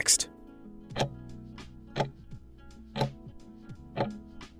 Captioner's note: timer ticking